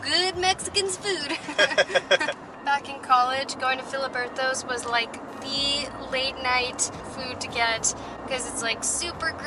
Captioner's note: laughs; laughter